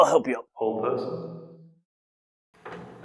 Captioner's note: echoing